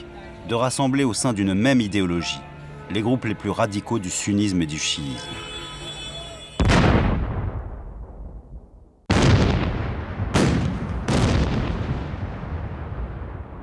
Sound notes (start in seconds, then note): 6.6 explosions